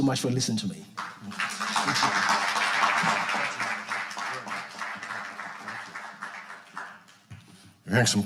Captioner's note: audience applauding